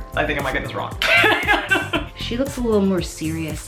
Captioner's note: laughs